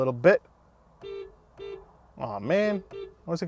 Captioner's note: car honking